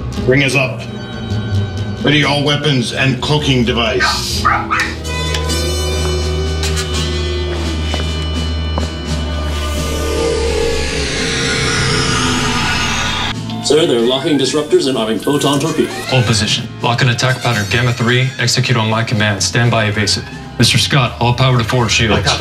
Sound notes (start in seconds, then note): 9.7 Klingon transporter-sound